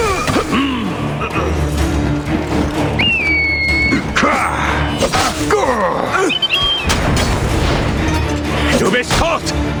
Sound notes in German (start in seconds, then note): 0.1 stöhnen; 3.0 schreien